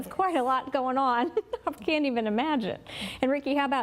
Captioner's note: laughing